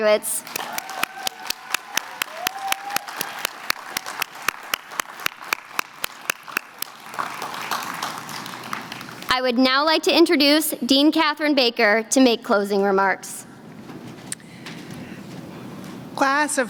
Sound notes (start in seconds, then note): 4.8 applause